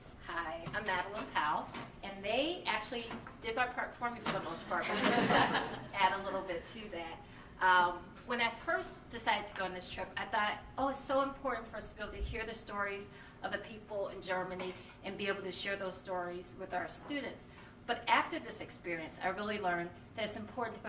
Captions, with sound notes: >>Hi, I'm Madeline Powell. And they actually did my part for me, for the most part, (laughter) but just to add a little bit to that. When I first decided to go on this trip, I thought, oh, it's so important for us to be able to hear the stories of the people in Germany and be able to share those stories with our students. But after this experience, I really learned that it's important